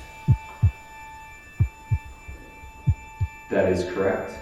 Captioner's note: heartbeat